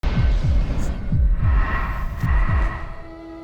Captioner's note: heart beating